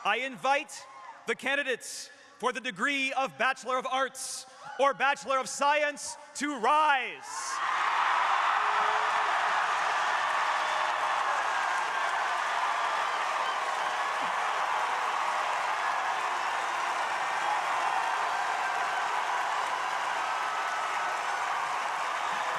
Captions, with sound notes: I invite the candidates for the degree of Bachelor of Arts or Bachelor of Science to rise. (crowd cheering)